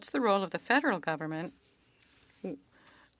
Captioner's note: speaking french